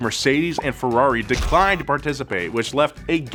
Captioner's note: wrong-answer buzzer noise